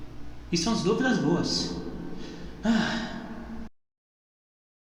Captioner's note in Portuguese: Suspiro